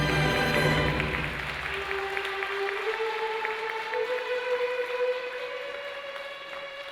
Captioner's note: applause